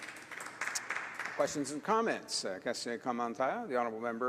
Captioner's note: applause